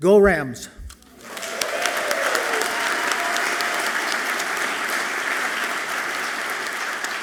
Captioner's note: audience clapping and cheering loudly